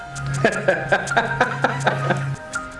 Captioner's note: laughing